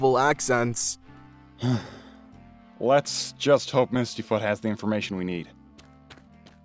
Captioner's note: sigh